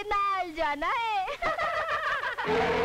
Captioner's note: All laughs